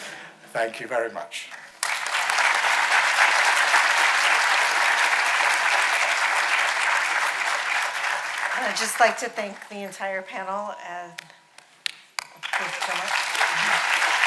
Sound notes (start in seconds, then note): 1.5 audience applauding